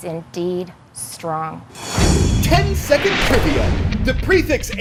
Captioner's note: voice-over